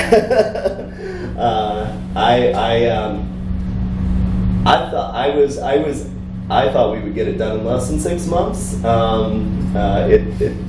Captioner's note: laughs